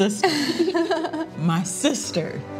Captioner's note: chuckling